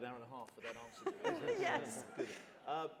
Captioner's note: laughter